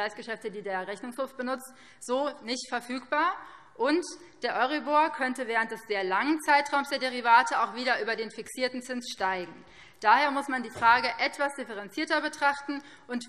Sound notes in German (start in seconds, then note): none